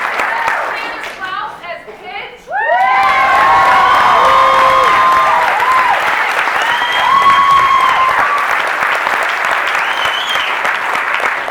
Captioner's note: cheering